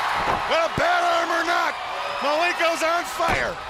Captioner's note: crowd cheering